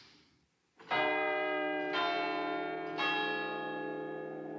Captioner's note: CLOCK CHIMlNG